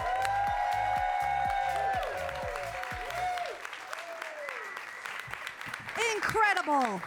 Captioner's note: audience cheering; audience applauding